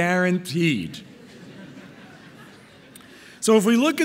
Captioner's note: audience laughing